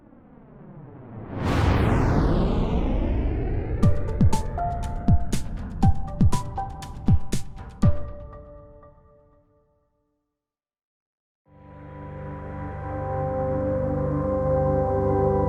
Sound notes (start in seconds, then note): 0.1 rocket engine roaring; 3.8 upbeat music; 11.5 soft music